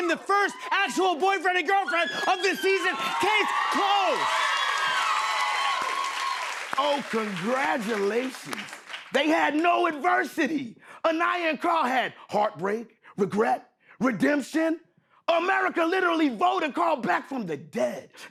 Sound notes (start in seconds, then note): 3.8 cheers and applause